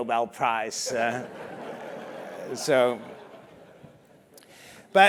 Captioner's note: laugh